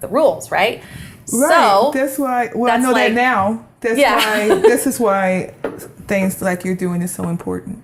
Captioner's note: laughter